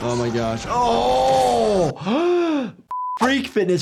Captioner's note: gasping